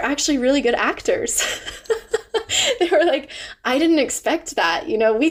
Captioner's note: laughs